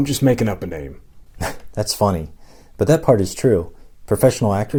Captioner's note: chuckle